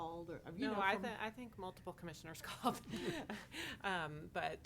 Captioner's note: chuckles